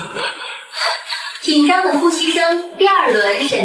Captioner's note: tense breathing